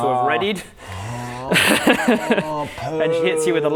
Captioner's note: evil laugh